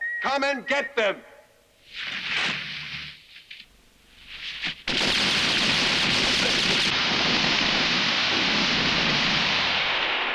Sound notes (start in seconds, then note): 4.8 guns roaring